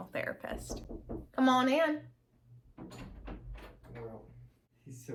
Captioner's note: knocking; door opens